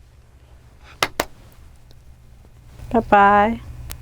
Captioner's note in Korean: 박수